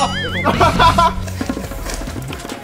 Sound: laughs

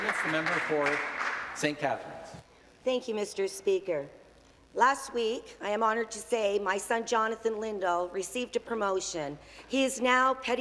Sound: applause

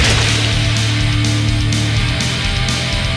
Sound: splat

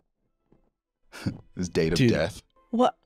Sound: laughs

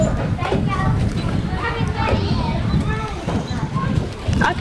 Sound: camera beeps

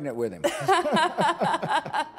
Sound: laughter

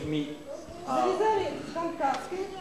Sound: non-english speech

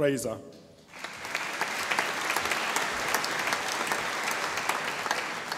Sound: audience applauding

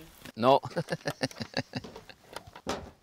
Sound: laughs

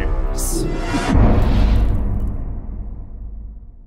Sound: impact

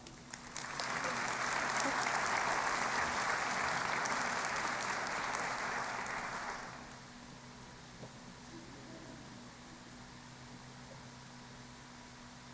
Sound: applause

